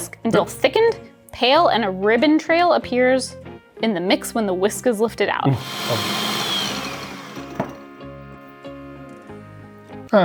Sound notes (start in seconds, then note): 5.5 blender whirring; 7.9 upbeat music